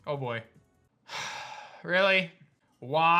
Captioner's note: sighs